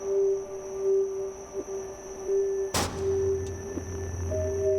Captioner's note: sound of light turning on